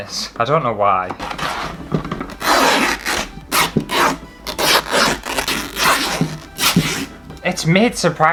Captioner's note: fabric Ripping